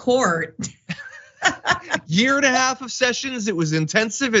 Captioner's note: laugh